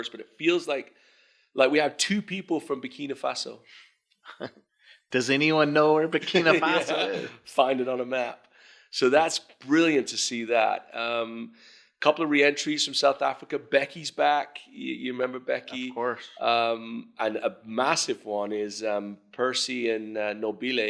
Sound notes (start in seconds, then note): 4.2 chuckles